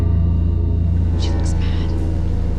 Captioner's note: whispering